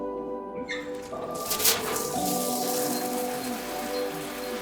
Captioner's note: water running; coffee maker beeping